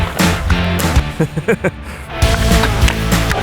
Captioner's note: laughing